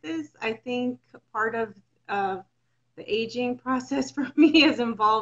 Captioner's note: chuckles